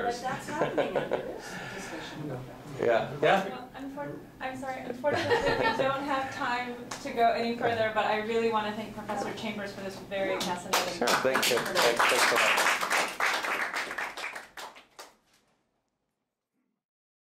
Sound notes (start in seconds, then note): 13.0 applause